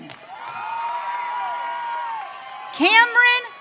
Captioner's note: audience cheering